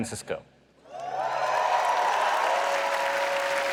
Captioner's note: applause